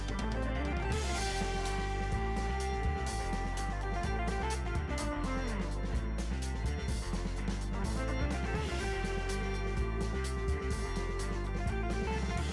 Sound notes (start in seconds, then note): none